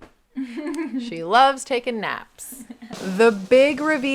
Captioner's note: laughing; drums rolling